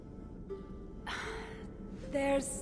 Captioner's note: sigh